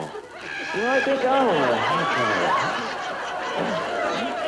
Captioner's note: audience laughter